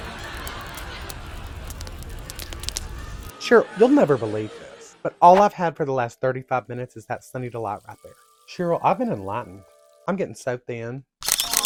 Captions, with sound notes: (humiliating laughter) (they’re still laughing...) Cheryl, you’ll NEVER believe this... But, all I’ve had for the last 35 minutes... is THAT “Sunny Delite”, right there is THAT “Sunny Delite”, right there Cheryl, I’ve been ENLIGHTENED!... I’m gett’n so thin!